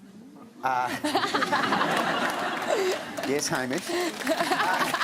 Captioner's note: laughter; applause